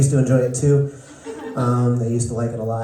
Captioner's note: laughter